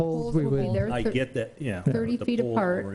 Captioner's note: murmurs